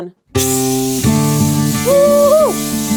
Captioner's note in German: Druckluft zischt; Fröhliche Musik